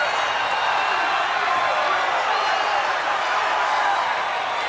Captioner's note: crowd cheering